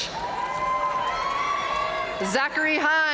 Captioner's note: audience cheering and applauding